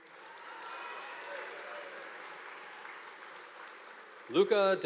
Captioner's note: audience applauding